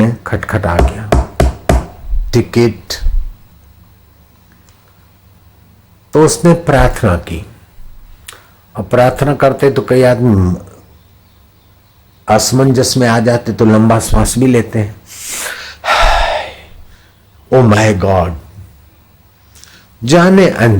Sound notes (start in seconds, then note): 15.1 in taking breath